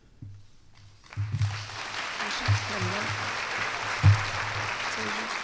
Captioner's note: applause